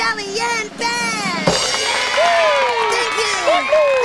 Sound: kids cheer

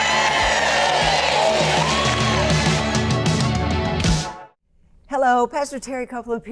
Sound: audience cheering

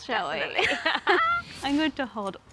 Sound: both laugh

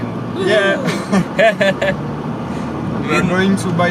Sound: laughs

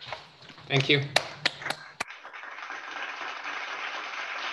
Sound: applause

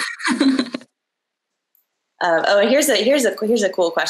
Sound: laughs

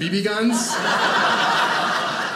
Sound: audience laughing

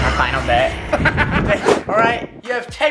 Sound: laughing

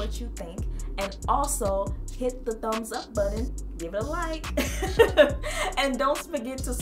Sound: laughs

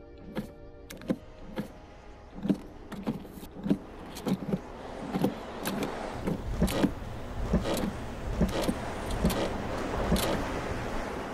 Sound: car seat creaking

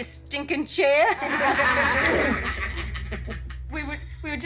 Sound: laughter

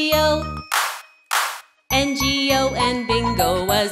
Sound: claps, claps

